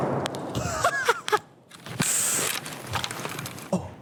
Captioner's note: gun snaps; laughs; faintly speaking